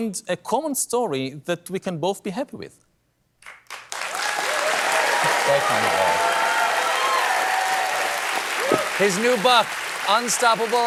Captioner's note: applause